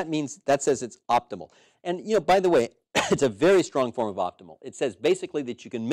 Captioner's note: cough